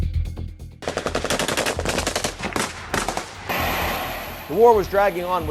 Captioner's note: gunshots popping